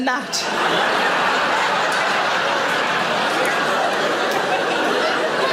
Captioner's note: audience laughing